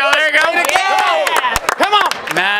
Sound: cheering

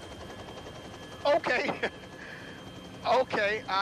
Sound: chuckles

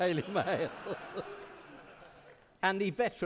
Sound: audience laughing

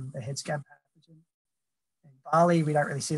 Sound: audio cuts out

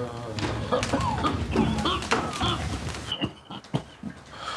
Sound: groaning; coughing

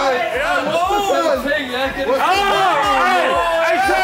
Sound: cheering

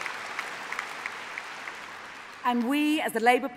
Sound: applause

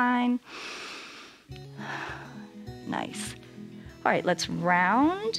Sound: inhales and exhales

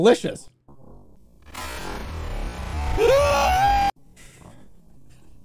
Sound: shrieks

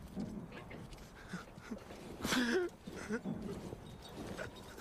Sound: panting

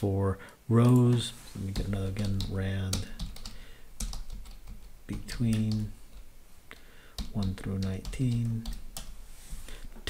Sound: typing

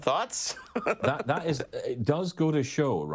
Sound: laughing loudly

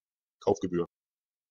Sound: fast Pronunciation

